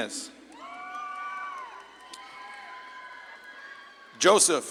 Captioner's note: audience claps and cheers